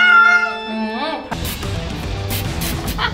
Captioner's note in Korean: 물 쏘는 소리; 웃음